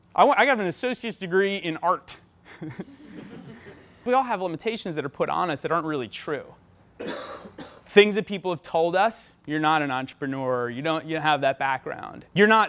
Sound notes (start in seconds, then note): 2.5 laughs; 2.6 audience laughs; 7.0 coughing